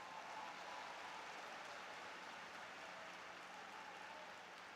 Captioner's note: applause